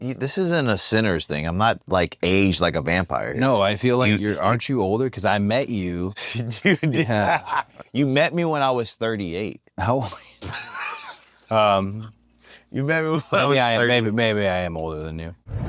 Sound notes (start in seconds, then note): 6.2 laugh; 10.1 laugh